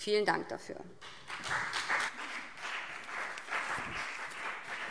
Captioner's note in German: Beifall BÜNDNIS 90/DIE GRÜNEN und vereinzelt CDU